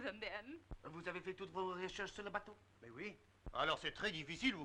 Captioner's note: officers speaking French